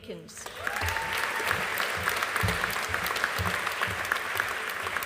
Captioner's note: audience applauding